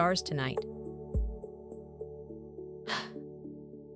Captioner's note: sigh